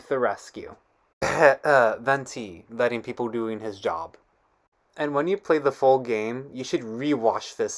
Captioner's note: sarcastic cough